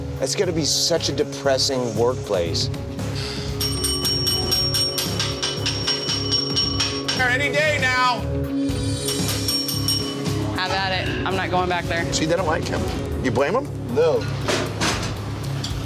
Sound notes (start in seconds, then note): 3.5 rings bell